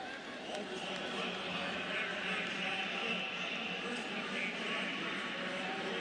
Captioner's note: pa announcement